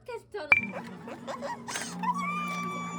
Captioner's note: screaming